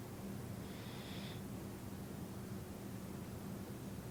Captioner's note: inhaling